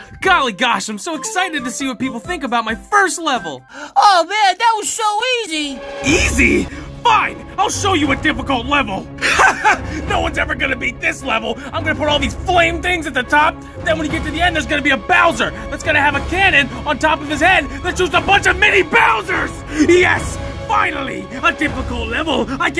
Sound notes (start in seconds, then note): 3.6 inhale; 9.2 laughter